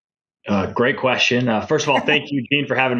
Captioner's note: laughing